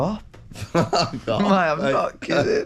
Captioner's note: laughs